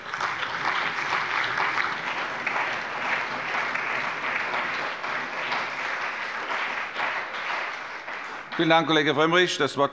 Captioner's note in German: Beifall bei BÜNDNIS 90/DIE GRÜNEN, der CDU, der SPD und der FDP